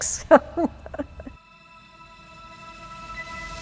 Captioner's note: laughs; soft music